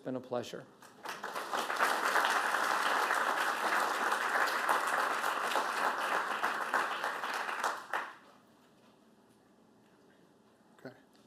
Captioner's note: applause